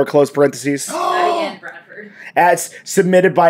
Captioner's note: gasp!